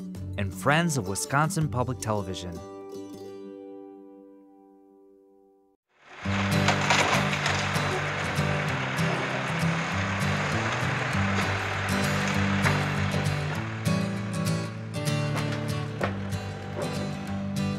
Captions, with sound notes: and Friends of Wisconsin Public Television. [tractor engine roaring] [upbeat folksy music]